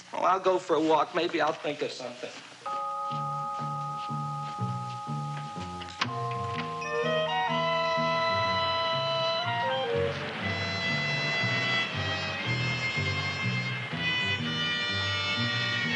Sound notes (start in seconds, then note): 3.0 tense music; 10.3 traffic rumbling